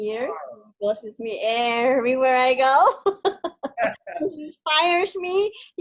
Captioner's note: laughs